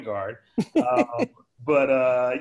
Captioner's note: laughing